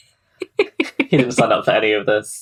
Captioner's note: laughs